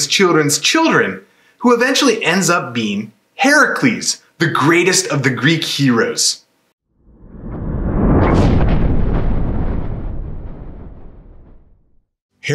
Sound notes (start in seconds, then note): 7.0 thunder